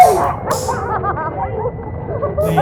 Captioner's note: both laughing